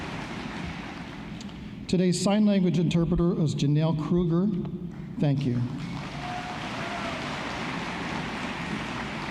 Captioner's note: applause